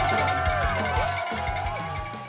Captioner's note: cheering